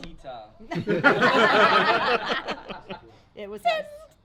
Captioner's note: everybody laughs